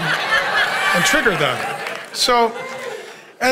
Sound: congregation laughing

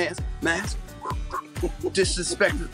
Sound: puffs air

